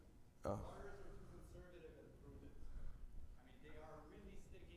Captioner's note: attendee 4 faintly speaks; faintly speaks